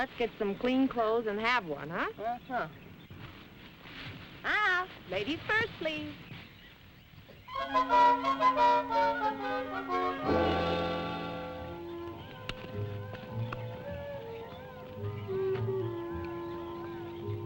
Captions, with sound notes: some clean clothes and have one huh? - Uh huh. Uh, uh, ladies first please. (playful music) (birds chirping) (gentle music) (birds chirping)